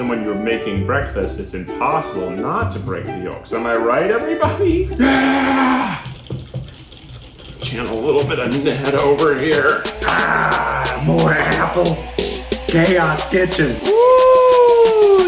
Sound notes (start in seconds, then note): 5.0 shouting; 6.1 whisking loudly